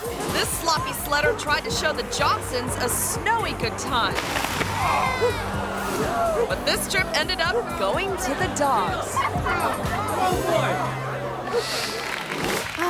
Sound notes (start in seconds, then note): 4.1 sled scratching; 4.3 sledder thuds; 5.2 crowd; 9.0 crowd giggles; 11.8 audience clapping